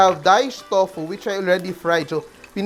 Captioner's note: sizzle